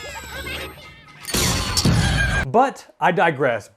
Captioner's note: weapon blasts